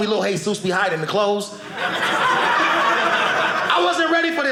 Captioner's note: audience laughing